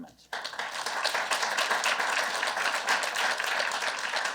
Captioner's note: applause